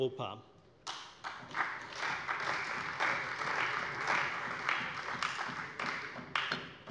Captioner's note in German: Beifall bei der CDU